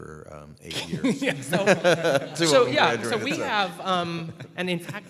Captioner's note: laughter